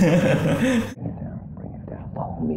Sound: whispers

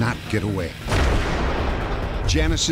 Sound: gunshot

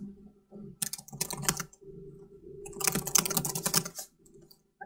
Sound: keyboard clanking

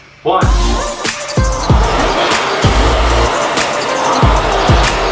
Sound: equipment whirring

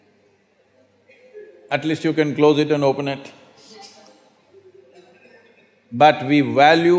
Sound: laughs

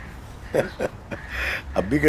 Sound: laughs

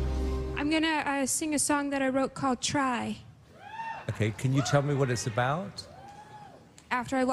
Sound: woo Hoos from audience

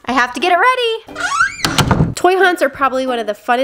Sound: door closing

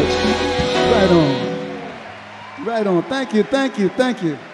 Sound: audience cheer and clap

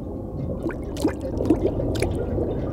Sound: dripping

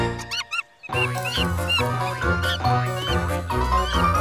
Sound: upbeat music; monkey chirps

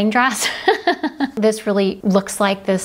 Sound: laughs

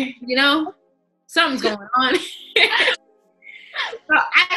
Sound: laughing

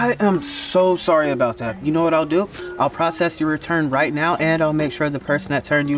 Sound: none

